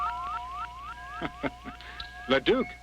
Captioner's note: laughs